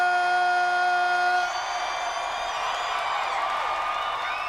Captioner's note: audience cheering